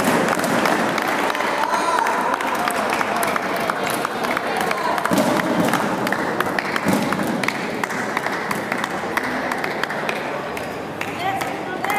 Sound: applause

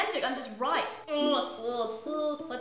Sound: makes cringing noises

